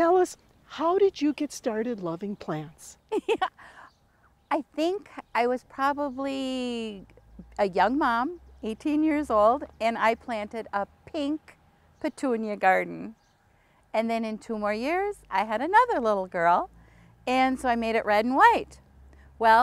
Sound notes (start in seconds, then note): 3.1 laughs